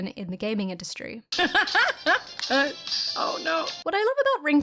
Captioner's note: laughing